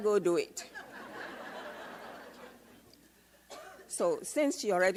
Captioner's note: audience laughs